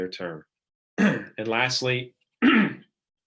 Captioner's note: clearing throat